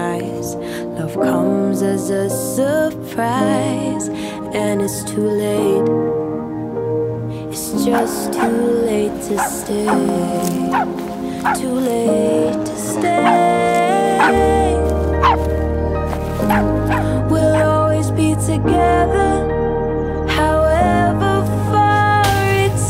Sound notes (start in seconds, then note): 7.8 dog barks; 12.6 dog growls